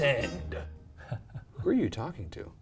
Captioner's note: laughs